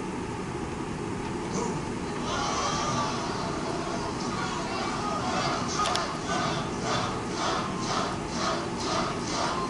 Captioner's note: Audio clip crowd chanting "Trump! Trump! Trump!"